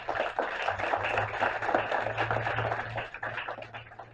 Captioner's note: applause